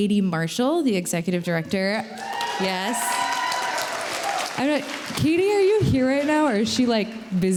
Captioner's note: applause